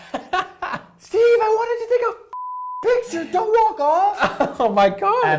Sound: beep

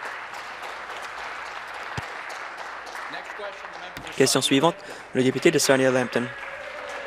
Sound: applause

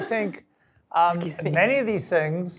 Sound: cough

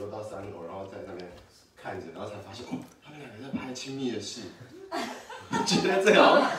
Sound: laughs

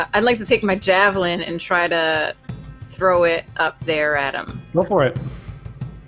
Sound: none

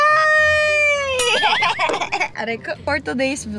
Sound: laugh

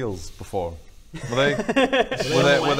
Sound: ominous laugh

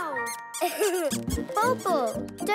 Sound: giggling

